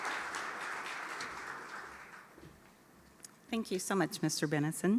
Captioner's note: applause